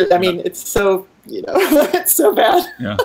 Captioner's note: laughing